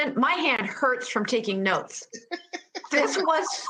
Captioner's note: laughs